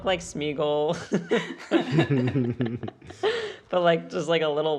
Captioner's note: laughter